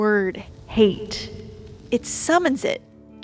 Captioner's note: crackling fire